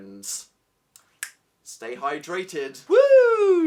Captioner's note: snaps